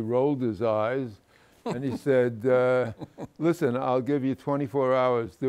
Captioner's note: laughs